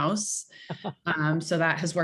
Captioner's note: chuckling